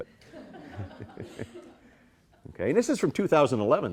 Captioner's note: all chuckling